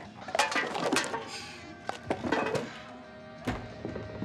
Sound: can clatters

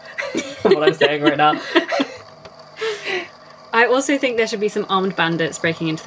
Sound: laughs

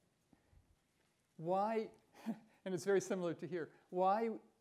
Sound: chuckles

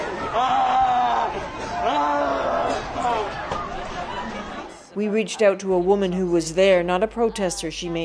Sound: screaming and crying

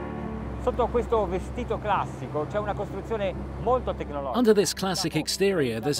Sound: speaks in foreign language; voiceover

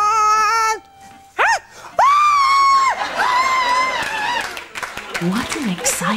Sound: they all scream and cheer really loud

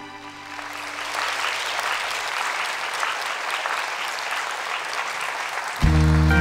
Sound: applause

